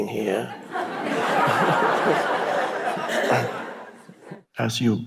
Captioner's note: audience laughing